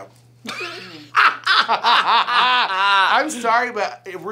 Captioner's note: both laugh